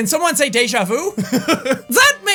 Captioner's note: laughs